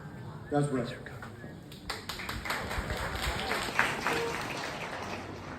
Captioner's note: applause